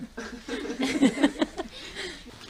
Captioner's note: everyone laughs